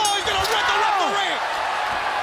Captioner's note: bell ringing